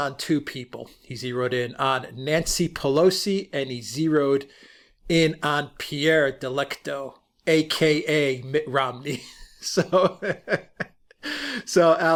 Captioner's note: laughter